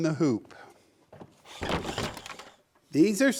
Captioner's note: wood falling